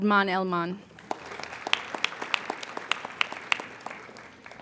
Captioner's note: applauding